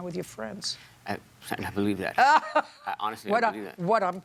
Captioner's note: Judge Judy laughs